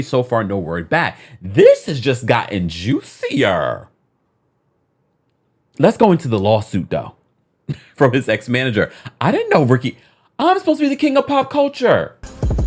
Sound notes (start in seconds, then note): 7.7 coughs; 12.2 upbeat music